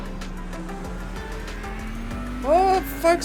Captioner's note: engine revving